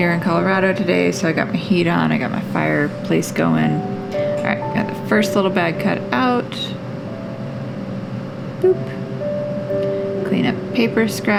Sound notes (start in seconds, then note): none